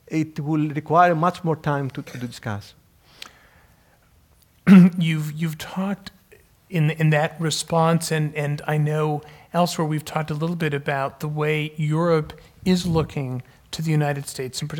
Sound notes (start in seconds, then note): 4.6 cough